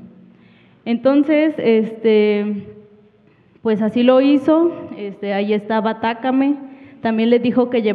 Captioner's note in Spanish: habla en wixárika